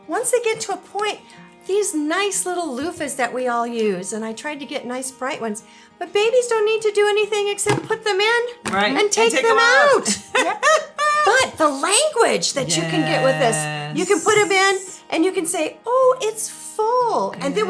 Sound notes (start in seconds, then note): 9.4 laughs